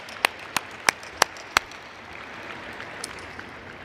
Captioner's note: applause